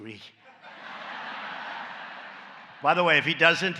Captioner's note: laughter